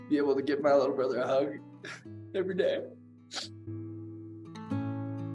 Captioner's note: sniffling; gentle music